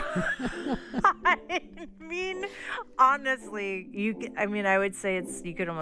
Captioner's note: laughter